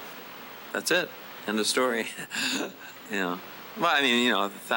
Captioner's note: chuckles